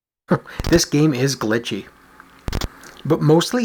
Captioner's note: chuckles